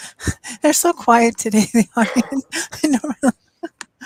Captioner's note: laughs